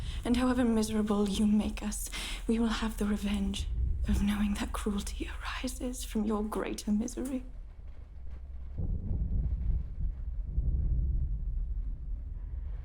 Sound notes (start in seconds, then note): 9.0 thunder rumbling